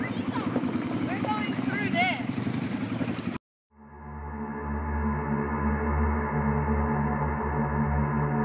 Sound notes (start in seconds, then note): 3.8 intense droning